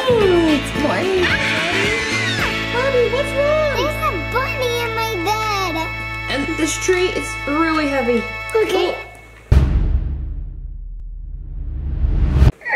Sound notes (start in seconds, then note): 1.1 squeals; 1.2 yawns